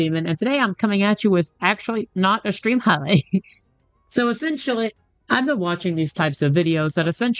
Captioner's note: laughs